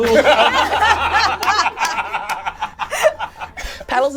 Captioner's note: all laugh